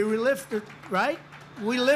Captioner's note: applause